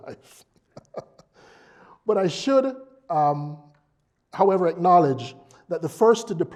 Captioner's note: laugh